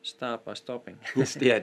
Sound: chuckles

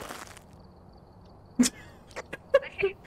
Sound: giggles

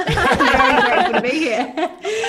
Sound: all laugh

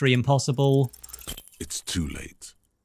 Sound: camera-flash sound

